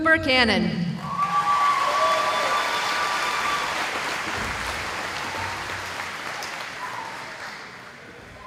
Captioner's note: cheering